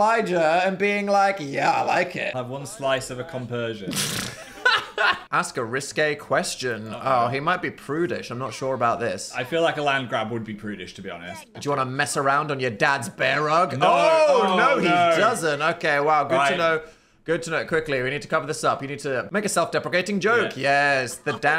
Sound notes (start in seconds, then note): 3.8 laughs